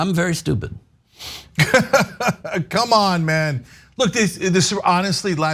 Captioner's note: laugh